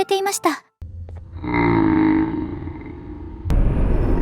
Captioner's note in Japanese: ジャンボ・ジョシュの唸り声; 何かの唸り声？